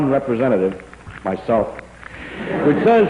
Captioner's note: laughter